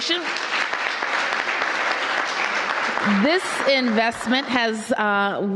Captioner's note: applause